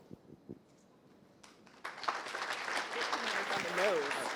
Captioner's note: applause